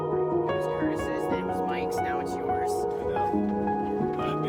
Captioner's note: people chattering